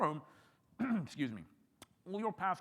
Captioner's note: clears throat